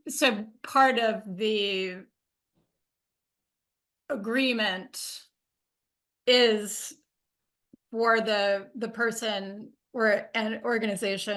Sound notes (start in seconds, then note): none